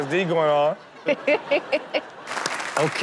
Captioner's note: crowd laughs; crowd applauds